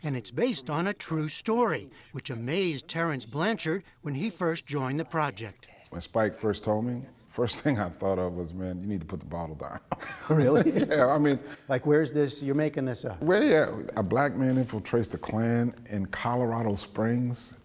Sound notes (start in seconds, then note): 9.7 laughter